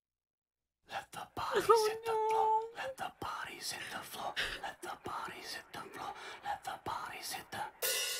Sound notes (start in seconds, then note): 1.6 continues crying